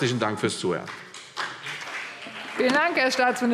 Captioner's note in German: Beifall CDU und BÜNDNIS 90/DIE GRÜNEN